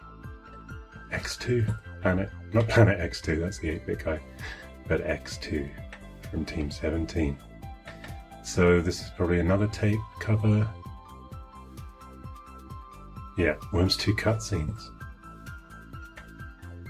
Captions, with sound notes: X2 on it. (speaking faintly) That's good, okay. But X2 and Team17. So this is probably another tape cover. Yeah, Worms 2 cut scenes.